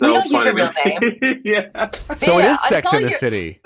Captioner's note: Echo laughing